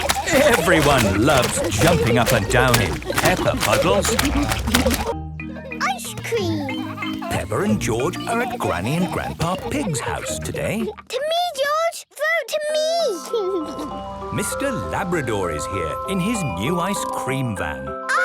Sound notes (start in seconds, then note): 4.3 laughter; 13.0 ice cream music playing